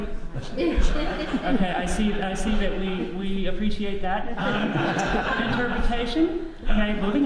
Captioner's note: audience laughs